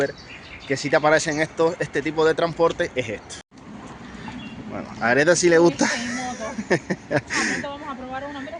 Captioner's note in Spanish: risas